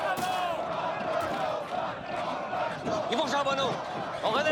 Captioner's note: objects splatter; Rene speaks in French